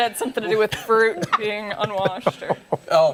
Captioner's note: laughter